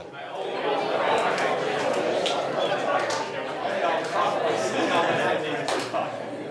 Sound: audience high-fives and repeats

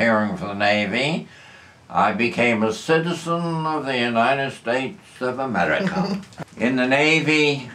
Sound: imitates accent; laughter

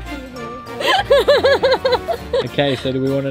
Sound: laughs

